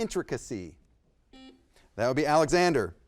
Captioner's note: buzzer beeps